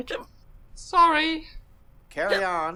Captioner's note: hiccuping